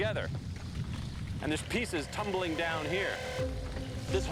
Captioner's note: rumbling, cracking sound